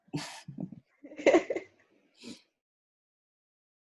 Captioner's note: nervous laughter